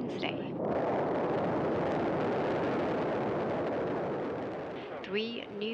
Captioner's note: rocket launching